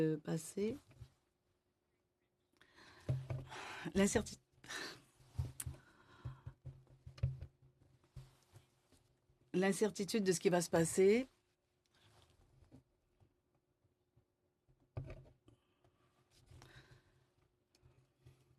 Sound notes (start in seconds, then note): 5.0 speaking in French